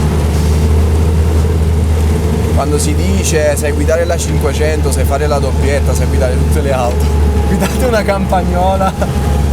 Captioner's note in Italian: risata